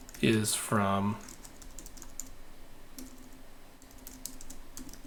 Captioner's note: keyboard clicking